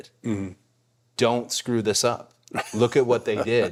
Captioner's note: The Undertaker laughing